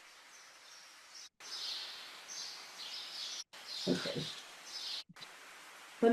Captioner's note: birds chirping